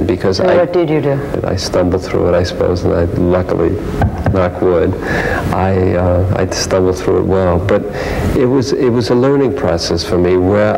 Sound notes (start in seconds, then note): 4.0 knocks on arm of chair